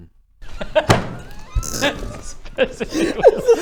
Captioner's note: laughter